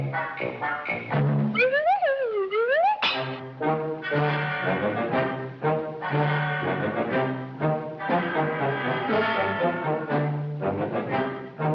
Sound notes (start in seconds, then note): 1.7 hat whirs; 4.5 tense marching music continues